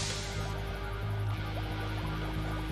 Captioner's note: camera whirring